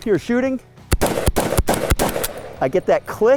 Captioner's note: gun shots